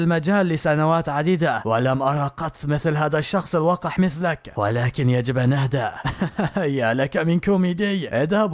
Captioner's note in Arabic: ضحك